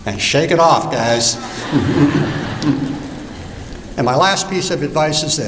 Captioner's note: laughter